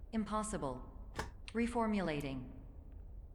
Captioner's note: thunk